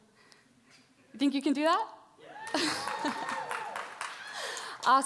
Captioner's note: applause